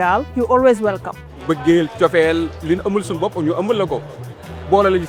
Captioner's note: non-english speech